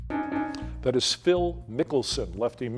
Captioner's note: bell dings